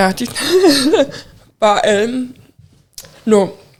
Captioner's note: chuckling